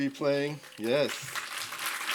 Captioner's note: applause